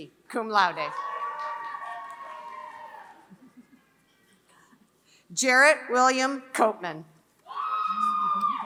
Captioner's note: applause